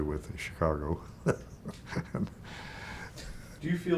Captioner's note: chuckling